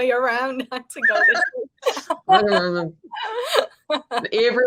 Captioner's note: woman laughing